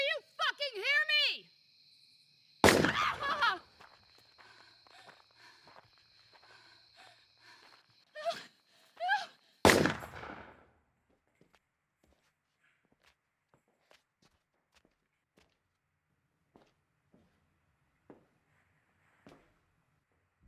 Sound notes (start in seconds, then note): 2.6 gun firing; 2.9 deputy screaming; 9.6 gun firing